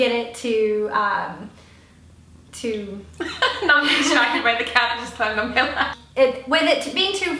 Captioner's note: laugh